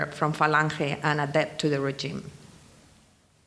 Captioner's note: speaking in foreign language